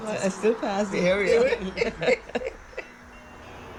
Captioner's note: laughter